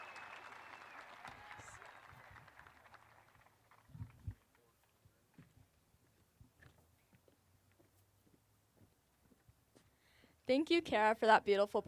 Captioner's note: applause